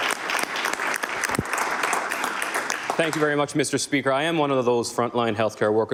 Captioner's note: applause